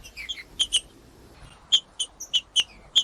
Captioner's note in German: trinca ferro cantando